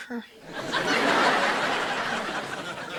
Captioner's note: audience laughter